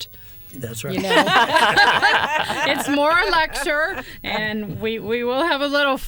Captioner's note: laughter